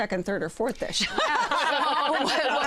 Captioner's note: laughter